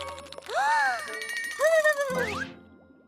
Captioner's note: gasps; shudders